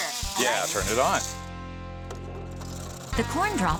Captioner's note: cutter starts up